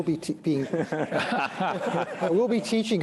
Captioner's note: laughter